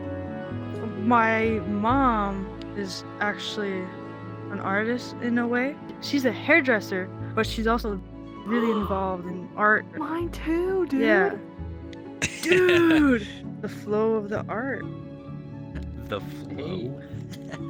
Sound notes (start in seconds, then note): 8.5 gasps; 17.5 seagulls laughs